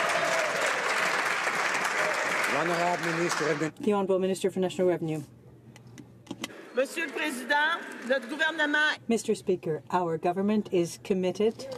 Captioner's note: some Applause